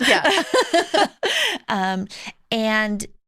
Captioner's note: laughter